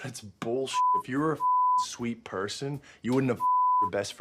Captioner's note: beep; beep